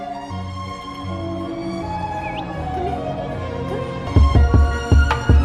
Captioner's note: clicks teeth & whistles